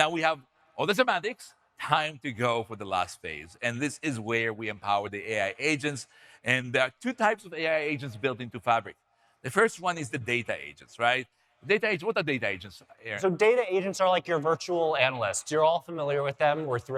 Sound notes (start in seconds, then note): none